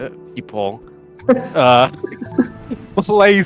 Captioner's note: laughs in background noises